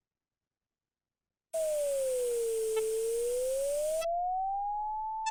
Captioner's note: tone with ticks and overlaid static